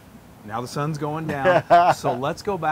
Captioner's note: laugh